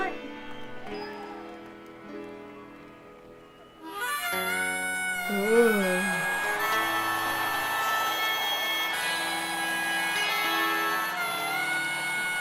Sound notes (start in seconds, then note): 0.2 tender instrumental music; 4.1 lively instrumental music; 4.1 audience cheering; 6.4 lively instrumental music